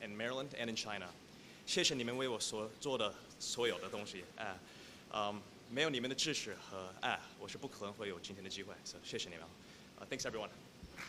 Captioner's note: speaking chinese